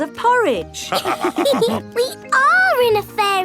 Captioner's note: all laughing